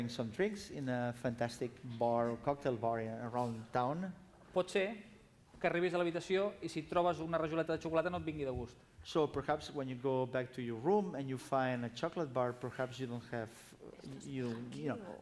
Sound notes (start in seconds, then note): 6.1 non-english speech